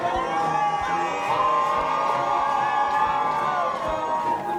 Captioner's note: crowd cheering